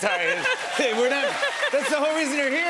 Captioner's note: cheers and applause